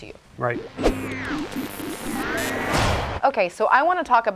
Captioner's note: electronic noises